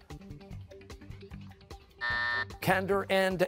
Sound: buzzer

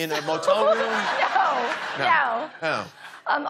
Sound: laughs

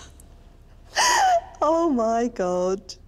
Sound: laughter; dramatic sob

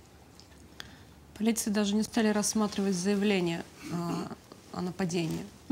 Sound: speaking in foreign language

